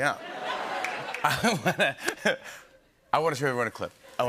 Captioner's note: laughter